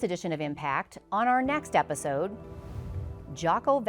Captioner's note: logo swooshes